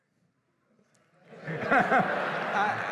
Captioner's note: laughter